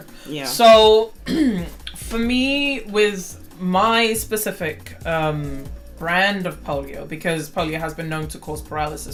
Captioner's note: clears throat